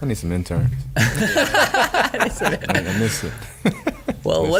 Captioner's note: laughing